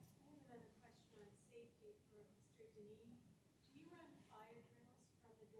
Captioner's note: woman speaking in background